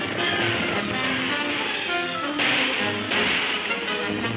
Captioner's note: man whistling